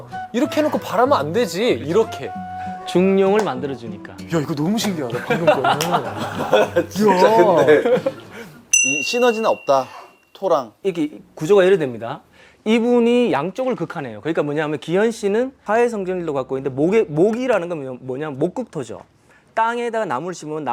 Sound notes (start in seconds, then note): 5.7 clap!